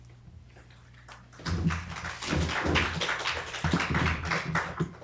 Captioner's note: applause